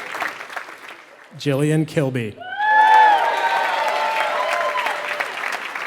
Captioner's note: applause